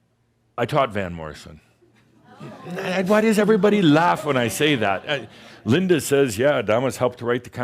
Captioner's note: some chuckles